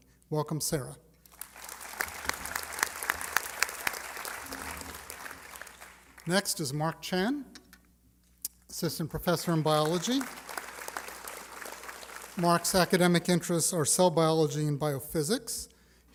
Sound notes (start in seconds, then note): 3.6 applause; 11.7 applause